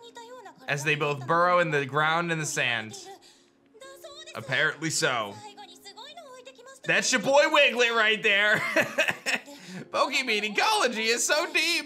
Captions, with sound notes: as they both burrow in the ground and the sand. Apparently so. That's your boy Wiglett right there. (laughs) Pokémon ecology is so deep.